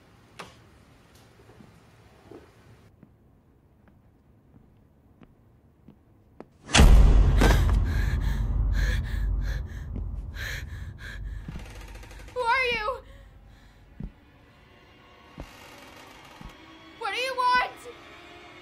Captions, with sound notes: (light switch clicks) (dramatic music) (Mandi gasps) (Mandi panting) (floor creaks) - Who are you? What do you want?